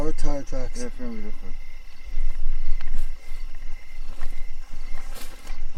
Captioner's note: speaking faintly